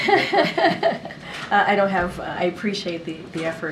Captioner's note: laughs